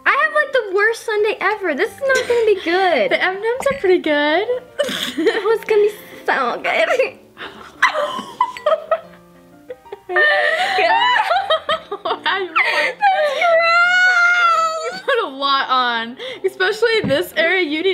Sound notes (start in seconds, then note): 5.0 snorts; 7.4 both laugh